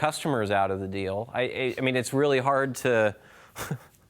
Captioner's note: chuckles